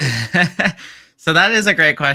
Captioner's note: chuckles